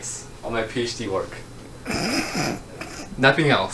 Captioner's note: laughs